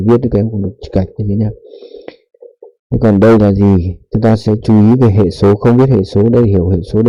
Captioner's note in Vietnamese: khịt mũi